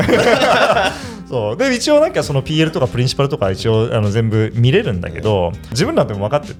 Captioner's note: laughs